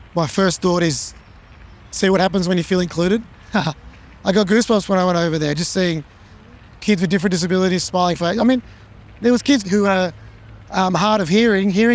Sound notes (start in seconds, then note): 3.5 chuckles